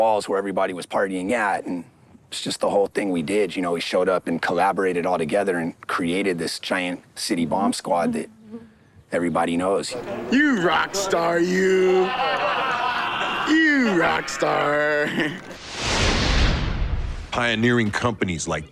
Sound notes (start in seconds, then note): 12.3 crew laughing; 15.5 intense whooshing